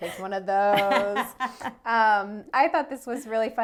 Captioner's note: laughs